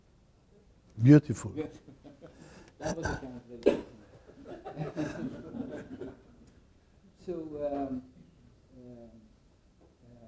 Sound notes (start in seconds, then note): 1.8 laughter